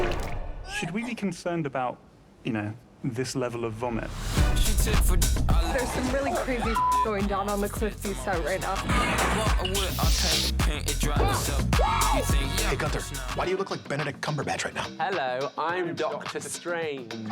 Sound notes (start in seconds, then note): 11.2 whooping